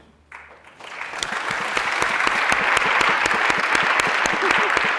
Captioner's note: applauding